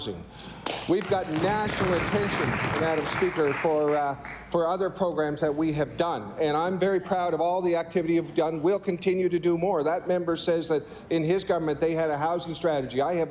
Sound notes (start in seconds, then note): 0.6 applause